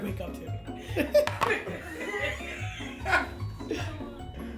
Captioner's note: laughing